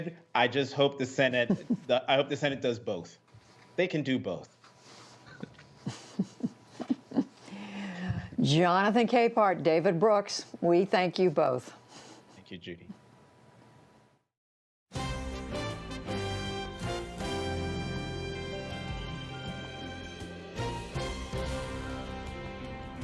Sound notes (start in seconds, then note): 5.3 laughter